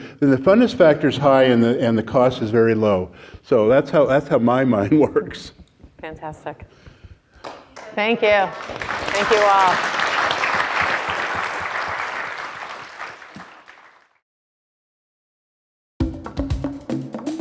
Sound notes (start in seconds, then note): 9.7 audience applause; 16.0 drumming music